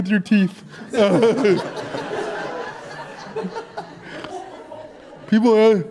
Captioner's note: audience Laughter